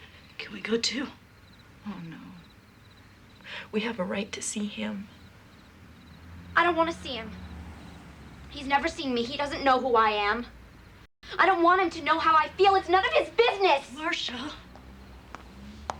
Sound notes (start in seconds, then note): none